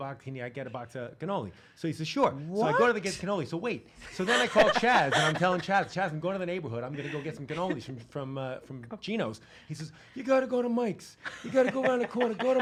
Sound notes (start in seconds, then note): 4.2 laughing